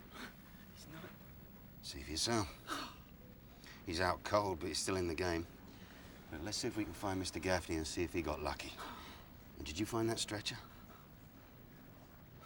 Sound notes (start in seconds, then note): 2.7 gasps